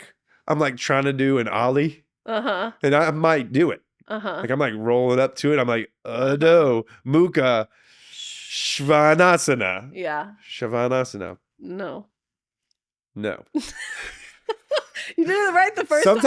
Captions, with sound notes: I'm like tryin' to do an Ollie. Uh huh. And I might do it. Uh huh. Like I'm like rollin' up to it, I'm like, "Udo, Muka, Shvanasana." Yeah. Shvanasana. No. No. (laughing) You did it right the first time.